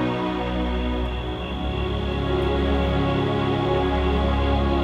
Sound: crickets chirping

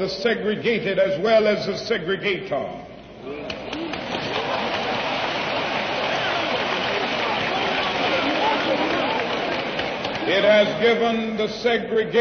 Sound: applause

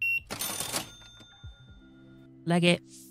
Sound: beeping

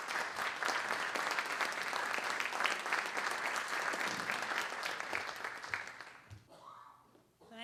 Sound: applause

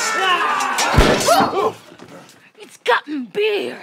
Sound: clanking swords; gunshot

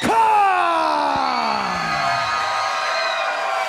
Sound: crowd cheers

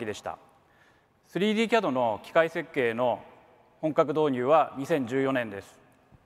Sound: speaks in foreign language

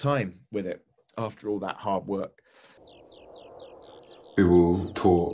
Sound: birdsong, wind whistles

